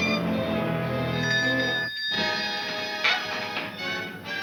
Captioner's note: bell ringing